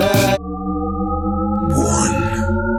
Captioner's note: shepard tone